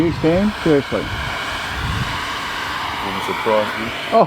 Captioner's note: blowing noise